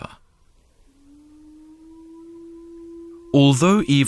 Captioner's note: dalekie odgłosy wycia wilków